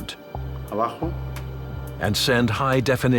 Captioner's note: man speaking in foreign language